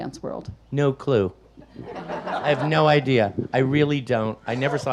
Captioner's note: audience laughs